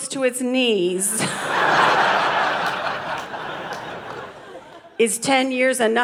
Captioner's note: audience laughing